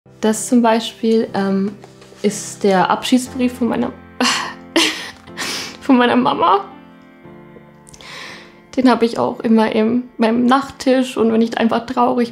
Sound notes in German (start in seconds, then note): 4.8 Seufzen; 7.3 Traurige Musik